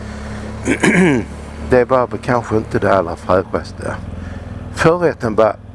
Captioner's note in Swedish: harklar sig